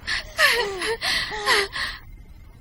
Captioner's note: panting